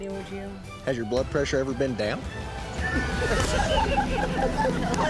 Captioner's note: laughter